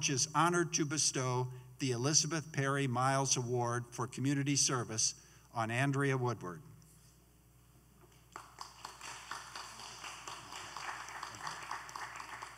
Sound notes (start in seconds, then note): 8.3 applause